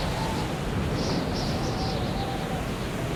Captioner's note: wind howling